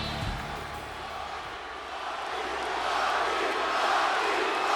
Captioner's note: crowd chanting